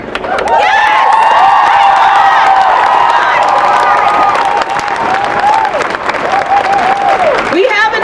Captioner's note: applause